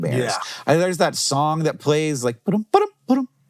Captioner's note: humming